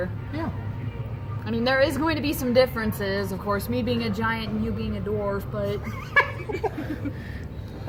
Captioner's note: laughs